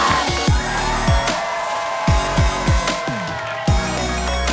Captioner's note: crowd cheering; fast, electronic music